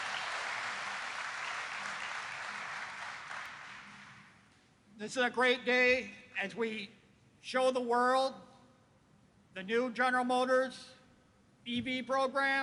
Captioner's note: applause